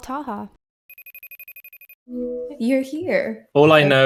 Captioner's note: phone ringing